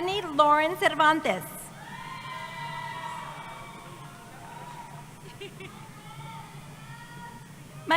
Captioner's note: cheering